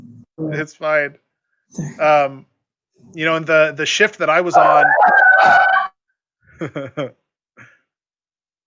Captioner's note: dog barks